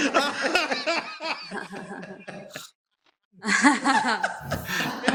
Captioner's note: laughter